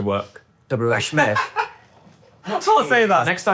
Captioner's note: laughing